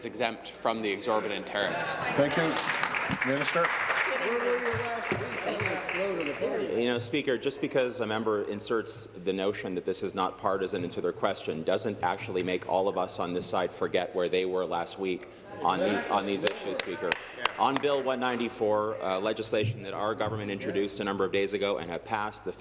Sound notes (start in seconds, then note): 6.1 applause